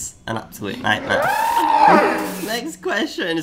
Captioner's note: screaming